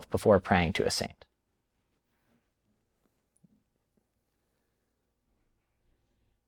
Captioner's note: silence